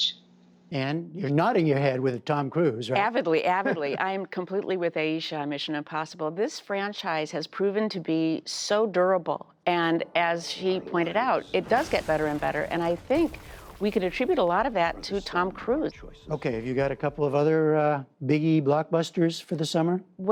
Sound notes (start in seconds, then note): 3.4 laughter